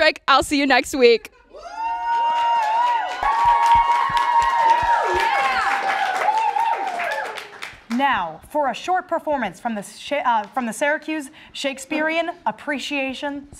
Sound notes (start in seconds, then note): 2.0 audience clapping